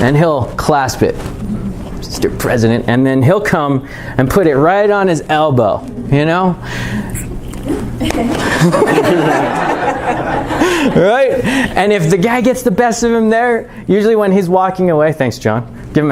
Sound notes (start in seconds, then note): 7.6 chuckling